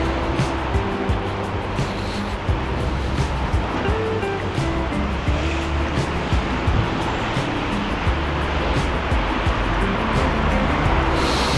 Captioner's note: wind Blowing